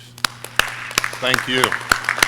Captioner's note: audience cheering